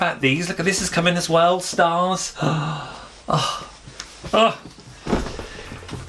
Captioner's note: gasps